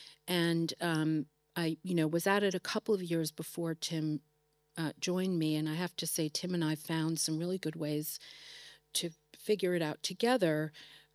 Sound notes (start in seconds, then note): none